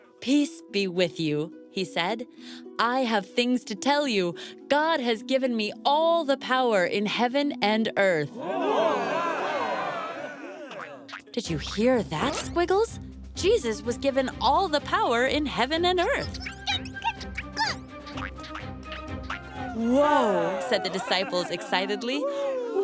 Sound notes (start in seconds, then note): 8.4 cheering; 16.4 squeaking